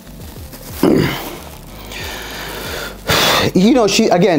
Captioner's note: grunts